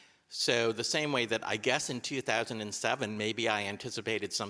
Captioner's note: none